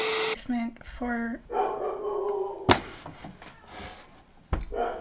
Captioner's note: Darcy barking